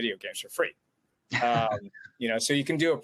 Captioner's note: chuckles